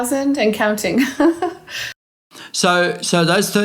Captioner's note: laughing